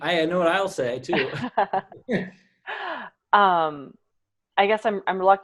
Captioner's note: laughs